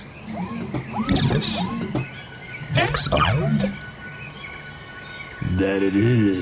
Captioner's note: gasps